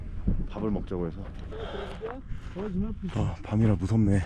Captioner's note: out of breath